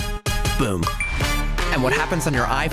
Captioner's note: iphone chimes